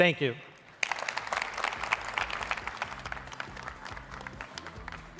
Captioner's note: applause